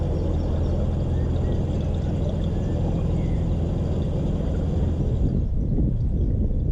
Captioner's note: sounds of water and birds singing